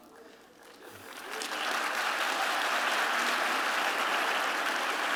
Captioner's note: applause